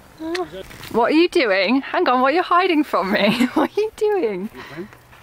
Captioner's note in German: Lachen